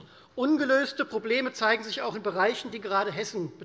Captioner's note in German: none